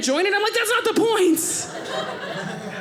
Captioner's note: audience laughing